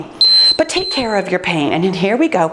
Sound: timer beeps

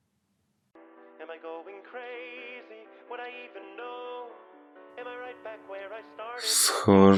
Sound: phonecall

